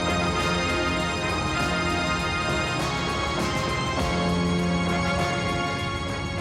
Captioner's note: dramatic music; plane roaring